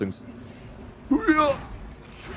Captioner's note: groan noise